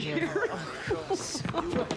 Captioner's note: Nora and Kristen laughing